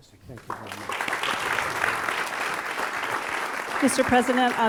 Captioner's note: applause